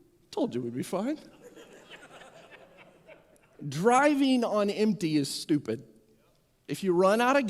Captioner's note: more Laughing